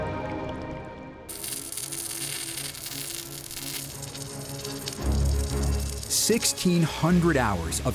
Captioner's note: welds crackling